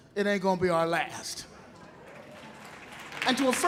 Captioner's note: audience laughing